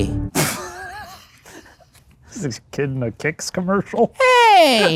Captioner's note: laughs